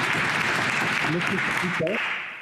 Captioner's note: applause